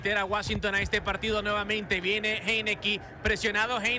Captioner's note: speaks in Spanish